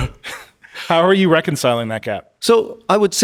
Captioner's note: Min chuckling